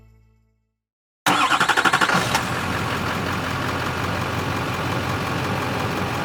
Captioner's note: car engine starting and idling